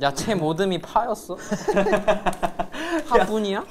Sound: laughing

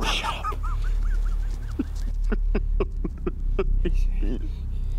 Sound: Bryce crying

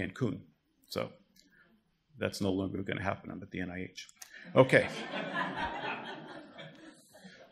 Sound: audience laughter

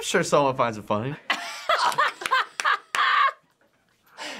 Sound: both laugh

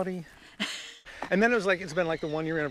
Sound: Courteney laughs

